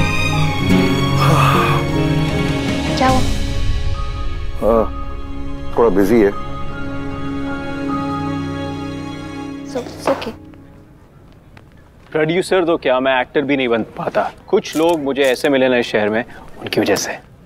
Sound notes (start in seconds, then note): 0.9 Sighs